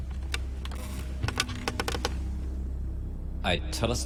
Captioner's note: chair creaking